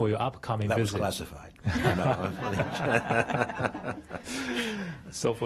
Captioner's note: laughter